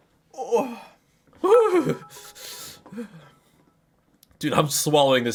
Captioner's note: sounds of general regret